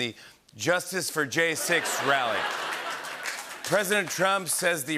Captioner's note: laughter and applause